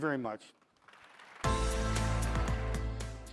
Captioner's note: audience applauding; bright music